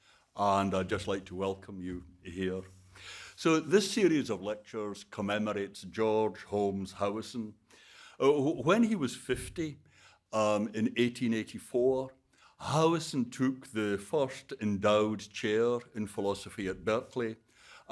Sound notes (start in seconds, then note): none